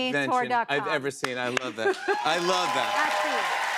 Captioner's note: cheers and applause